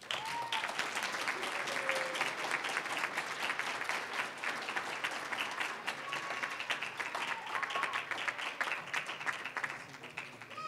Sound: applause

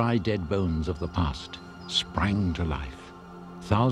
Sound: man speaks in foreign language; birds chirping; gentle music

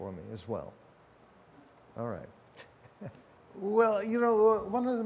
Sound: laughs

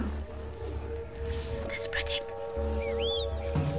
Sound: whispering

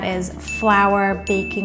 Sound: bell dinging

